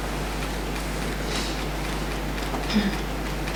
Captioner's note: tapping